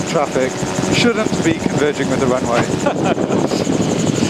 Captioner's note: laugh